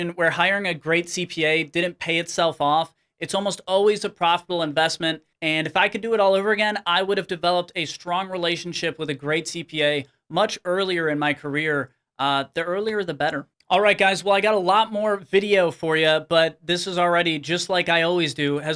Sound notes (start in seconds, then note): none